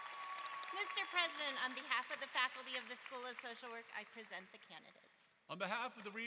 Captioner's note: applause